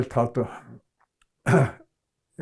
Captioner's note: clears throat